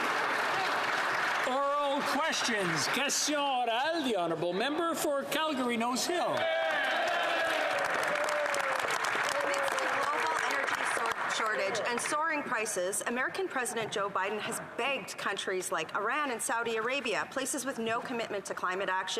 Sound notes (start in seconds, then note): 6.8 speaking French; 11.4 some Applause